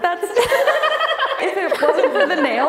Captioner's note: all laughing